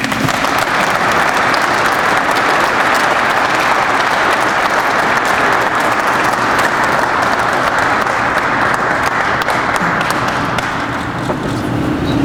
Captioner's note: crowd applauds